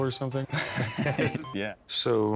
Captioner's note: both laughing